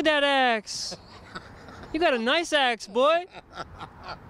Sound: laughing

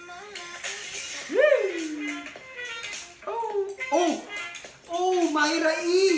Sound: weird/creepy noises never stop

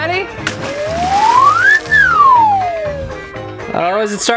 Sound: slide whistle whistling

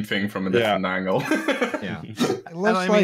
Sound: laughs

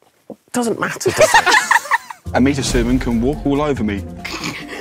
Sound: group laughs; group snickers

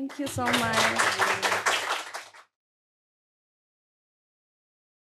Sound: audience clapping

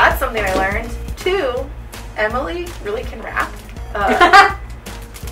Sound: laughter

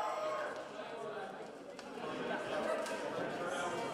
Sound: cheers

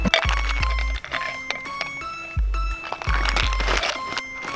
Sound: items clinking; tense music

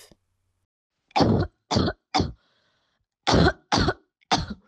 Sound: choking short coughs

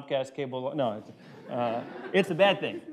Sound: laughter

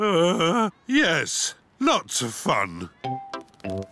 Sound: groans

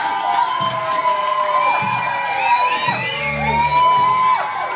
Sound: people start hissing while making the gesture

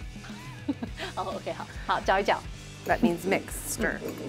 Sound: speaking in mandarin

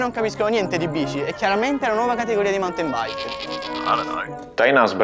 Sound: goat disagree

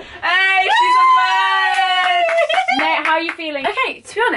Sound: clapping

